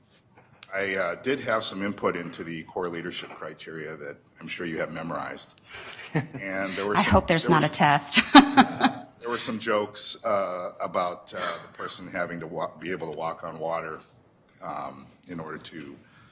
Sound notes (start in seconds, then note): 5.8 laughter